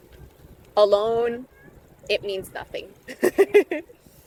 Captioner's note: laughs